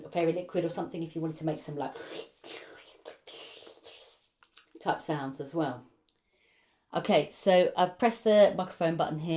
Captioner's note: squelchy sounds